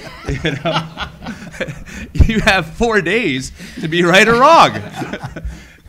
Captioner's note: laugh